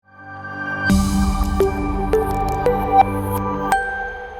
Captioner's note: logo humming and chiming